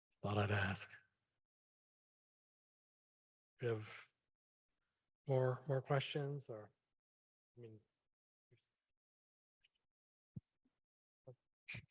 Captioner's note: silence